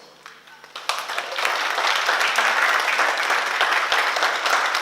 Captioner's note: oklaski